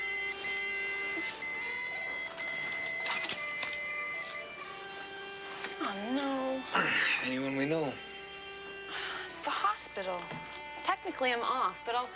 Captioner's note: pager beeps